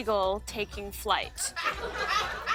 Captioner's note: laughter